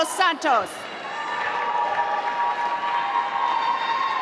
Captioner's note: applause